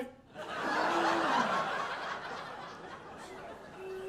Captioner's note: audience laughing